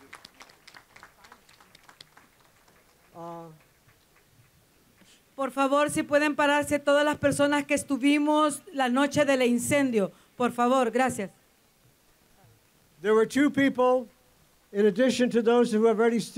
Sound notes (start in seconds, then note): 0.0 applause; 4.4 speaking spanish